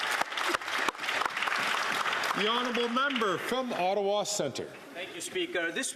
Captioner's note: some Applause